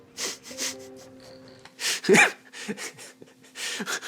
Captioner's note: laughing